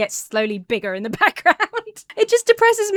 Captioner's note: laughs